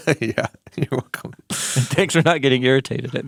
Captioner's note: laughing